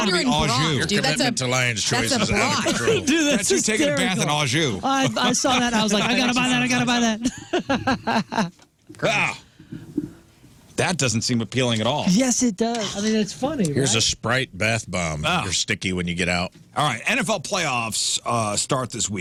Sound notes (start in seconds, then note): 8.9 laughter